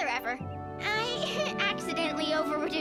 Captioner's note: giggle